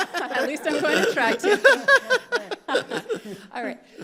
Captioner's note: all laughing